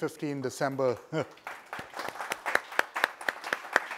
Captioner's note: applause